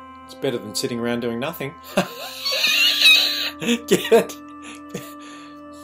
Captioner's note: laughs